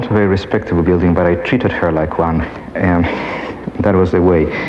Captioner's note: laughs